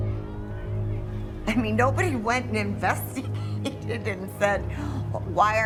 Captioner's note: laughing